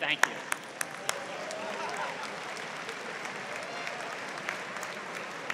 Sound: applause

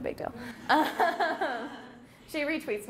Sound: laughing

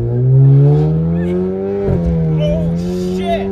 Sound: engine revving

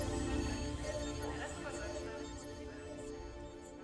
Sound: beeping continues

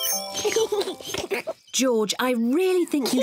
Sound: rings bell; both giggle

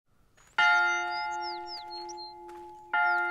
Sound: bell clanging

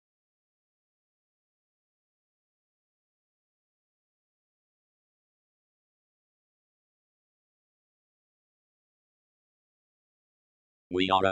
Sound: silence

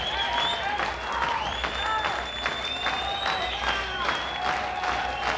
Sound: crowd rhythmically clapping

